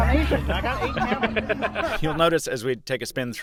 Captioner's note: laughing